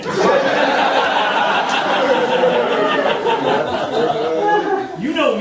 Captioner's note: audience laughing